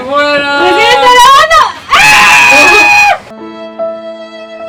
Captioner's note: screams